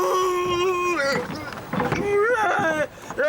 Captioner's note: moans